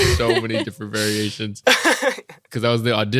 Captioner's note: chuckles